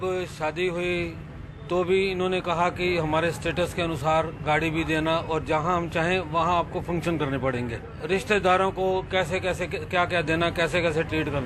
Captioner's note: man speaks in foreign language